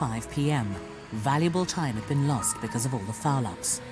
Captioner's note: voiceover